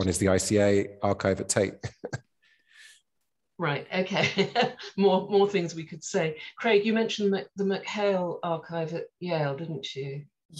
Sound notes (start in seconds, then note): 4.1 laughing